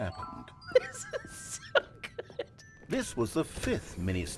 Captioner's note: laughing